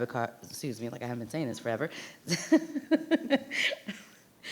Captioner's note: laughs